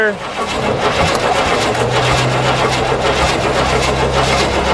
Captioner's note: engine sputters